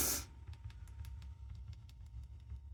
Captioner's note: patting